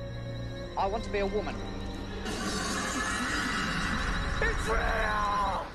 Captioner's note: extra spooky female laughter